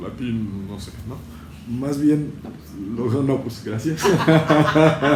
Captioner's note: laughter